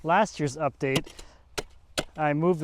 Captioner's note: shovel thumps